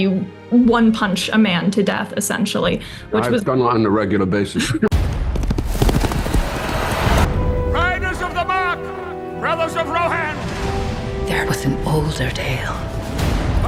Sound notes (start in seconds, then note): 5.4 hooves pounding